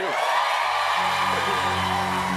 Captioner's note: cheers and applause